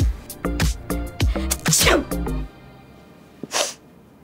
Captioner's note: sneezes; sniffs